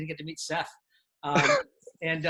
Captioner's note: laughter